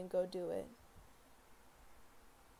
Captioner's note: silence